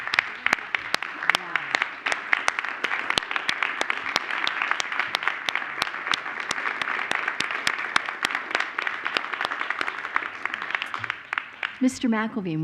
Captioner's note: applause